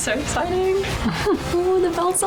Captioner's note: laughing